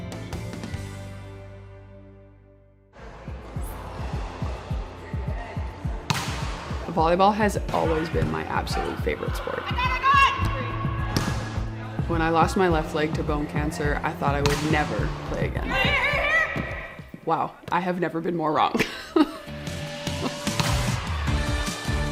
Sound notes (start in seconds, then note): 0.1 upbeat music; 6.1 ball smacks